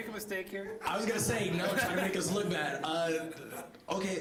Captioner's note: chuckling